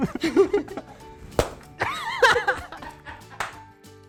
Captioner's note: laughs